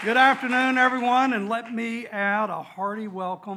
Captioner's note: applause